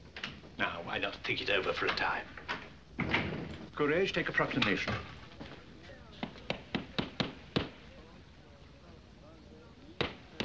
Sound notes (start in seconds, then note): 3.0 door Opens; 6.2 hammering